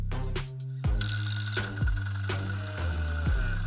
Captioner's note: pyry rypy brr brumm